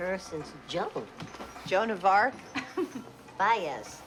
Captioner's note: chuckles